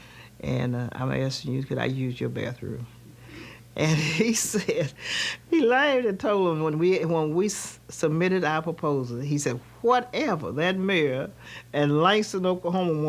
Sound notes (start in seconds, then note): 3.8 laughing